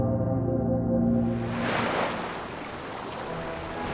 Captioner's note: waves rolling; gentle music